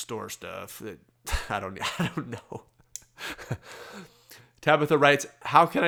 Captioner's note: laughs